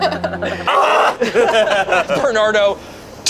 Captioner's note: everyone laughs; screams